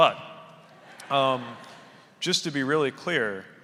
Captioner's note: audience laughing